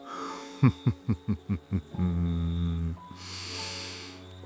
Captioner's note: laughs